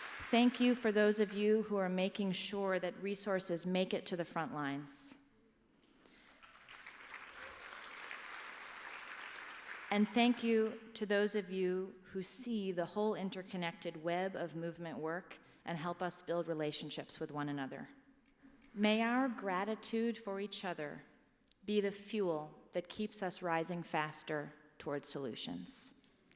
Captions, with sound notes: Thank you for those of you who are making sure that resources make it to the frontlines. [APPLAUSE] And thank you to those of you who see the whole interconnected web of movement work, and help us build relationships with one another. May our gratitude for each other be the fuel that keeps us rising faster towards solutions.